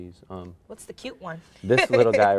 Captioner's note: laughs